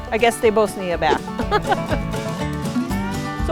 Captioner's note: laughs; upbeat country music